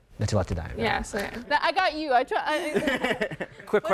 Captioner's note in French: rires